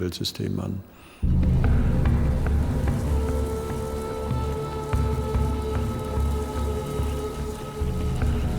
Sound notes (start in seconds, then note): 1.2 suspenseful music; 4.4 locusts hissing